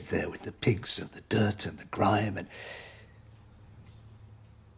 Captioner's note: inhales